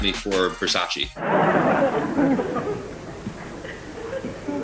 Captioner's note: audience laughs